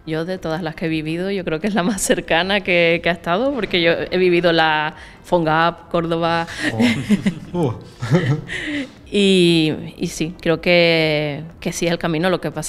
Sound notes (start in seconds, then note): 6.6 risas